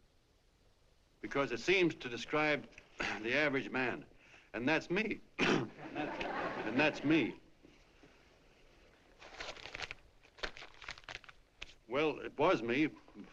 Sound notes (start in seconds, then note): 4.4 voice cracking; 5.7 laughter